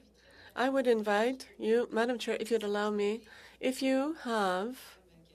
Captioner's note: speaking French